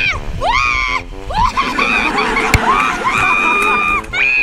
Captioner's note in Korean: 원숭이 울음 라이브ㅋㅋ